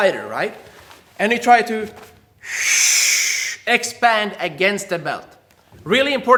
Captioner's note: air hisses